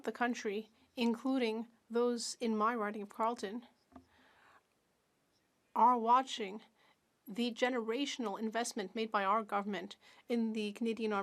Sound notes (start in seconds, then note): 6.0 speaking French